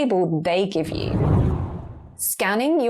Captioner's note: video effect whooshes